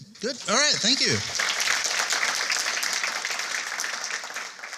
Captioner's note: applause